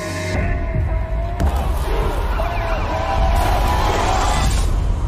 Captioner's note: crowd yelling